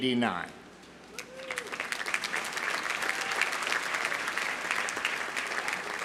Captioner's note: audience applauding